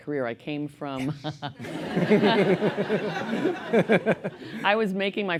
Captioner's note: laughter